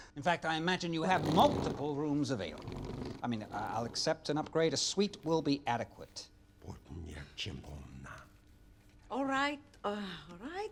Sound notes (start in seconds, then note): 6.8 man speaking in unknown foreign language